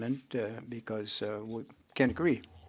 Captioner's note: speaking French